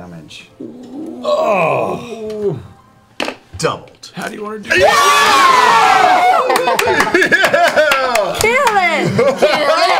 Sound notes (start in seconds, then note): 4.7 cheering